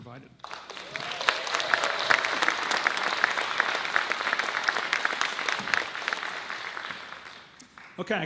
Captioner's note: audience claps